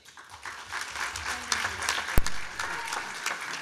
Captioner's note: clapping